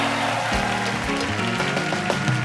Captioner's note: applause